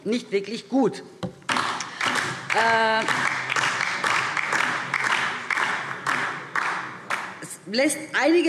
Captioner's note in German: Beifall DIE LINKE